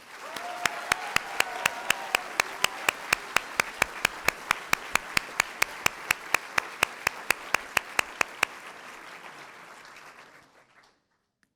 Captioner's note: applause